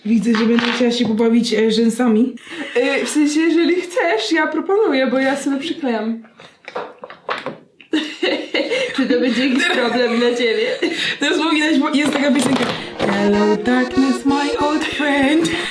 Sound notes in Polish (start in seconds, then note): 7.9 śmiech